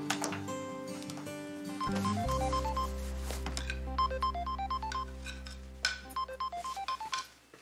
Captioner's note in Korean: 휴대전화벨 소리